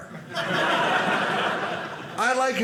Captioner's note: audience laughing